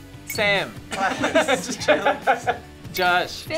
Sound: laughs

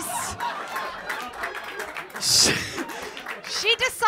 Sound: laughter & applause

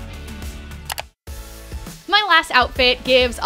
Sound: mouse click

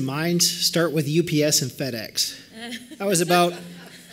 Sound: laughter

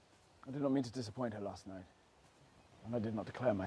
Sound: none

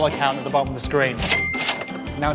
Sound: register chimes

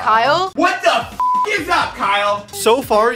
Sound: beep

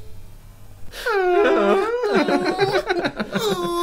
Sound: more Fake Crying

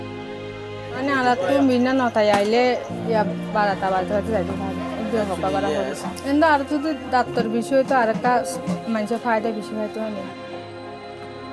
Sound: non-english speech

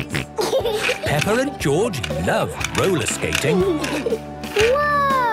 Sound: snorting and giggling; laughter

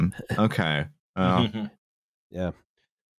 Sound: chuckles

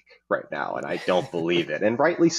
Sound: chuckling

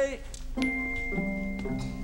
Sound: bell chiming

